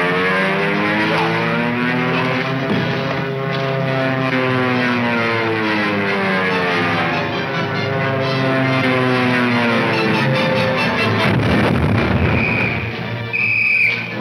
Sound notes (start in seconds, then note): 9.4 explosion booming; 10.6 officer whistling; 12.2 footsteps tapping